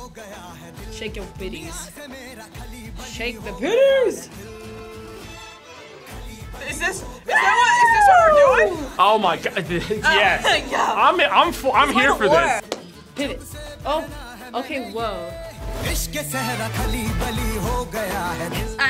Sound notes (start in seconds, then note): 9.4 laughs; 15.7 upbeat music